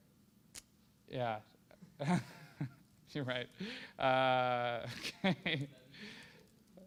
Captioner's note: laughter